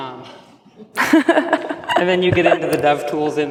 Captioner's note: laughs